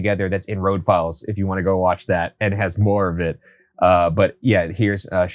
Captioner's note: none